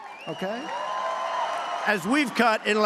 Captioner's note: applause